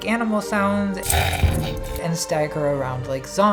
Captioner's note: growling